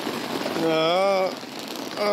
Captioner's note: groans